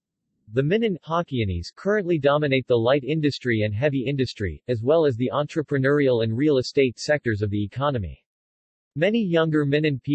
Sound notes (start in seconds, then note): 1.1 Hokkienese